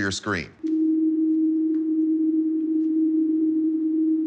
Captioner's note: humming